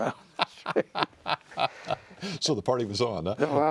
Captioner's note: laughing